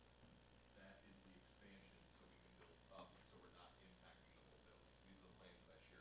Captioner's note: speaking faintly